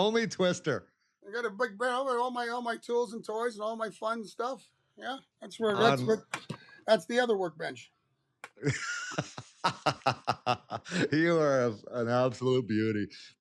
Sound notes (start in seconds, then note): 8.6 laughter